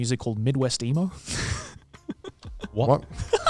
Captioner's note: chuckling